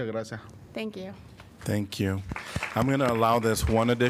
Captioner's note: applause